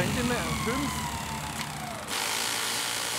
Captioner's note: drilling noises